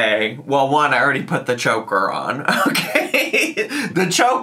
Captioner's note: laughs